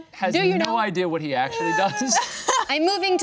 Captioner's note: group laughing